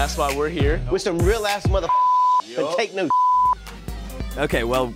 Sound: beep

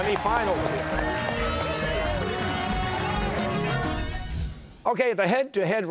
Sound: cheers and applause

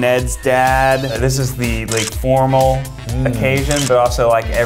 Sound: camera clicks; camera clicks

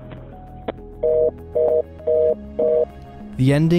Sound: phone beeping

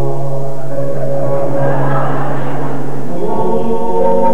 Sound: laughter

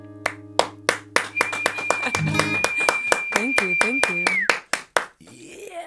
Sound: applauding

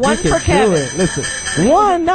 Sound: bell rings

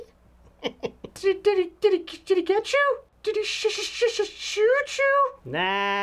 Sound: laughter; stuttering

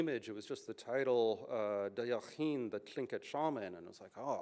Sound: non-english speech

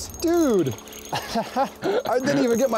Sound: laughs

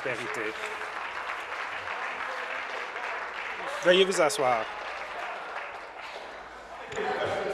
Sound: applause

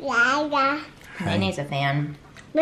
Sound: babbling

